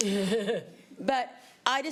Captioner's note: laughs